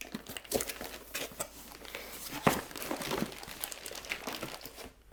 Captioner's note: packaging crinkling